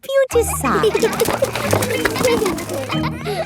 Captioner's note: kids giggling